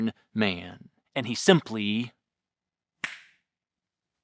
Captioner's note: fingers snapping